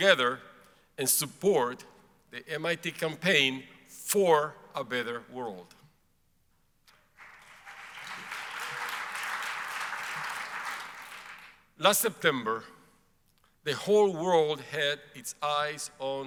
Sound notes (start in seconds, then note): 7.1 audience applauds